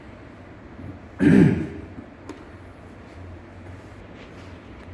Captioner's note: clears throat